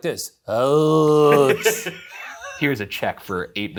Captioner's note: laughing